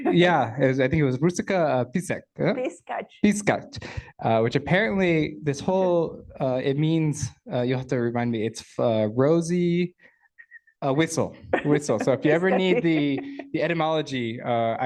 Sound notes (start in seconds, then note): 10.4 whistles